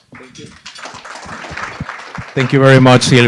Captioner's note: applause